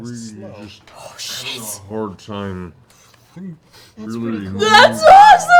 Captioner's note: slow-mo voice